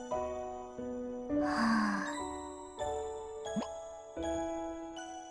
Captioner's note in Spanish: suspiro